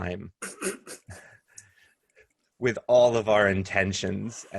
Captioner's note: laughter